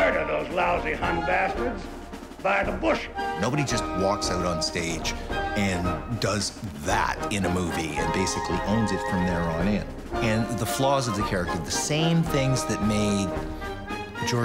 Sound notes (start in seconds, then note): none